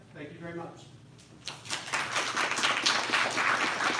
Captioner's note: applause